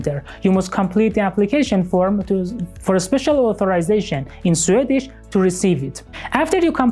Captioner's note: in Swedish